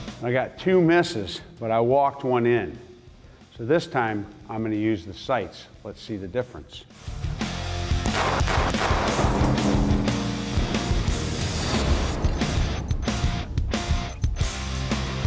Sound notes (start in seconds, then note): 7.1 rock music; 8.0 gunshots; 11.2 rock music